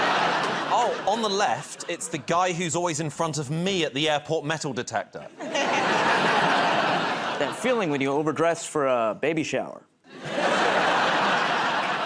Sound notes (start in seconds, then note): 5.2 laughter; 10.1 laughter